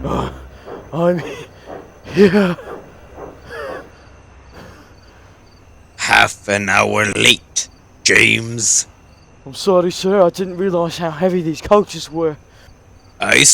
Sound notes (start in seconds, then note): 0.0 growl; 3.4 long wheeze